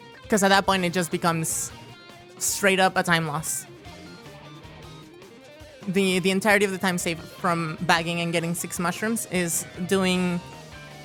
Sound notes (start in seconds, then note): none